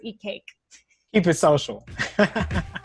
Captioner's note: chuckles